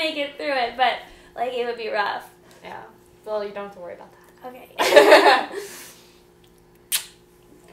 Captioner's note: both laughing; smooch